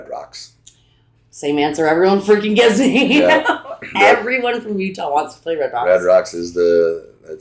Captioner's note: laughs